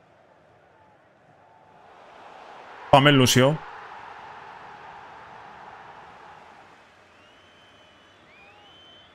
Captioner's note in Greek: χειροκρότημα